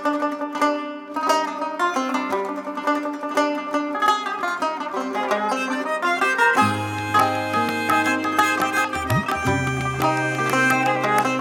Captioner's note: applause